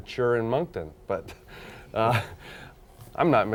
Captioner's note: laughing